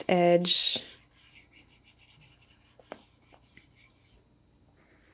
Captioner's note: pencil scratching